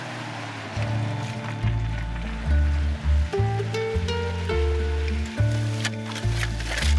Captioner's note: engine rumbling; upbeat music